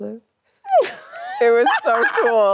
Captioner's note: Anne laughs cheerfully